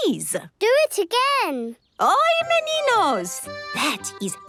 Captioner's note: speaking Portuguese